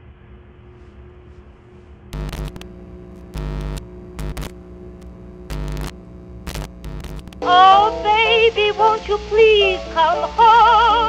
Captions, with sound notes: [audio interference humming] - [singing] Oh baby, won't you please come home.